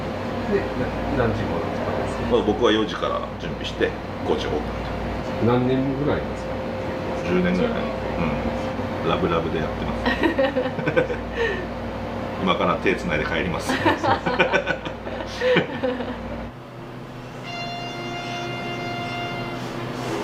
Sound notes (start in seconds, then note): 10.1 laughs; 13.6 laughs